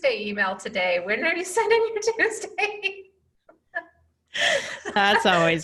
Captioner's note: laughing